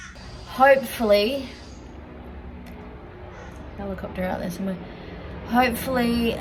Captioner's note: sound of a helicopter